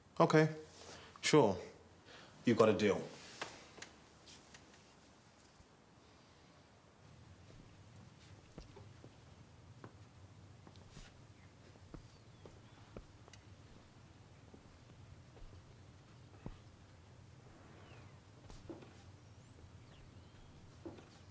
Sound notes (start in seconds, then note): 12.5 birds chirping